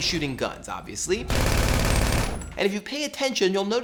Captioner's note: machine gun fire